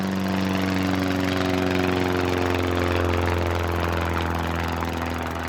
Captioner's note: plane sounds